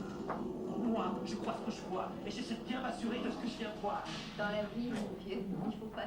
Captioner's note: speaking Tahitian language